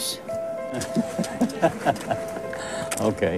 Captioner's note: Ferencz laughs